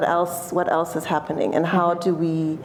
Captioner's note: none